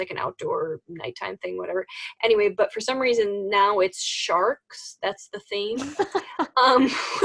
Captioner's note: laughs